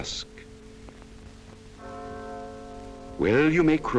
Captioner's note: bell ringing